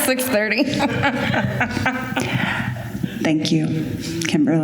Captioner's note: laughter